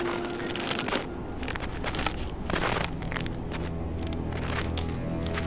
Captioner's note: ice cracking